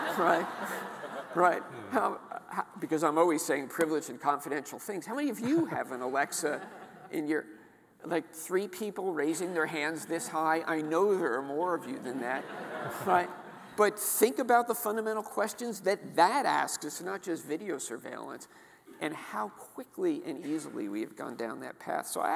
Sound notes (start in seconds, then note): 0.0 audience laughing; 12.1 audience laughing